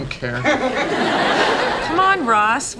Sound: audience laughing

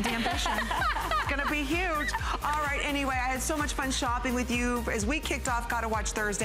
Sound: laughter

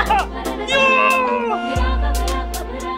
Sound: shouting

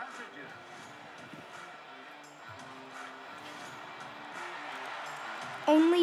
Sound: crowd cheers

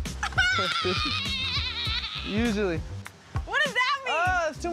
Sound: laughs

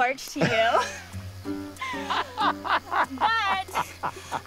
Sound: laughing

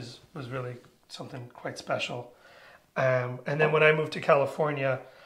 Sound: none

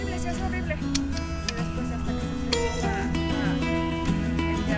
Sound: speaking foreign language

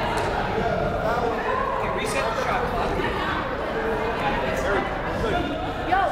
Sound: various players and fans talking

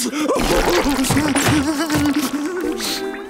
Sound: crying

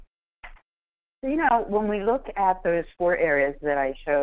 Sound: voiceover

